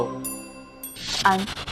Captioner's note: ding